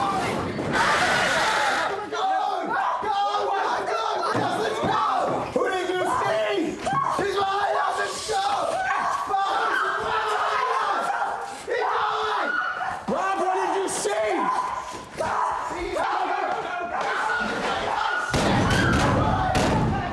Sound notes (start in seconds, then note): 0.1 woman screaming; 5.5 everyone shouting; 9.8 everyone screaming; 18.2 door slams